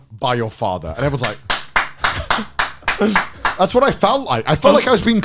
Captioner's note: clapping